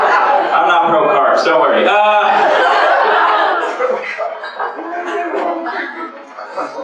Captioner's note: laughter